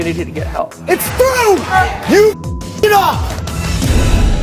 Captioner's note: beep